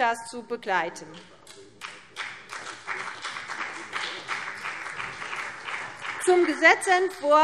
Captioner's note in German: Beifall CDU und BÜNDNIS 90/DIE GRÜNEN